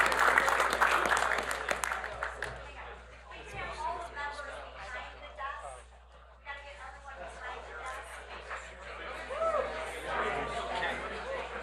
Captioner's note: applause